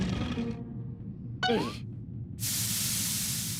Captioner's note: muffled groaning